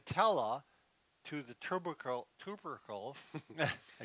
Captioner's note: laughs